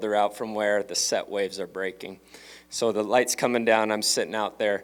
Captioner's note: none